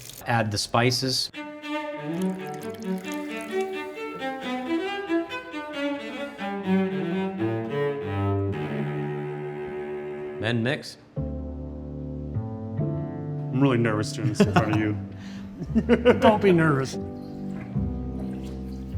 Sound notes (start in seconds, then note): 1.7 dramatic instrumental music; 14.2 laughs